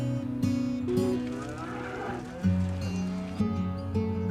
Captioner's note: cattle moo